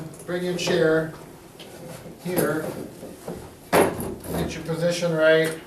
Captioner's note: chair clanks